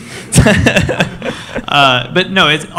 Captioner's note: laughing